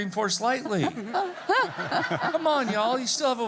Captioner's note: attendees laughing